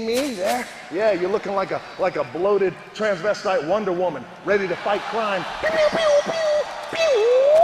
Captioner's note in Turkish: Alkış